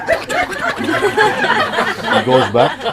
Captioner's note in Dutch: Gelach